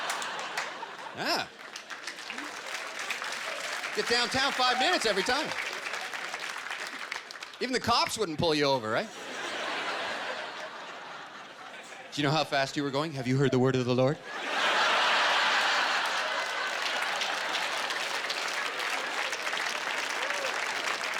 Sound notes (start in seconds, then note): 16.4 applause